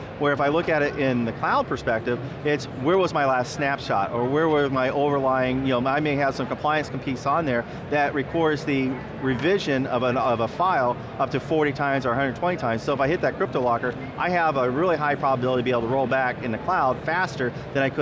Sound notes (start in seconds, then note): 4.2 stuttering